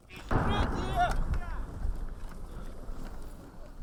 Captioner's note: gun fire and missile sounds